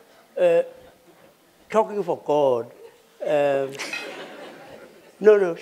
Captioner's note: laughter